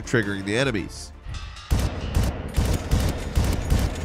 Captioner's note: gun firing